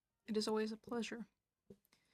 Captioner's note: speaking in French